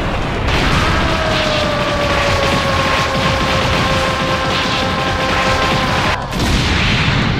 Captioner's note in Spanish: Gritos